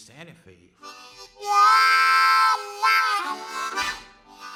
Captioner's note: train chugging